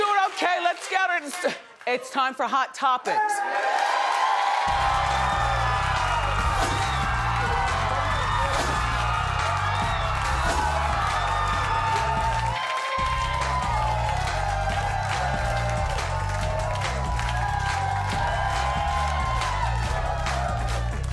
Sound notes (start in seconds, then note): 4.3 audience cheering; 7.3 upbeat music